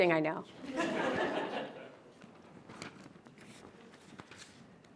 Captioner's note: audience laughs